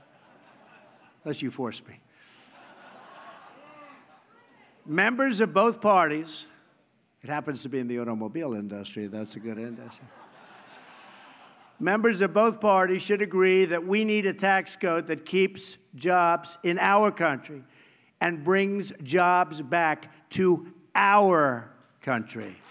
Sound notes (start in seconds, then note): 0.0 laughter; 2.4 laughter; 10.8 laughter